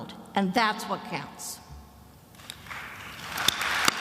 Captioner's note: applauds; attendees applauding